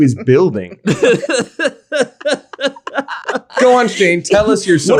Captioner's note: all laugh